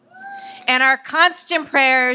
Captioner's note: audience applauds and cheers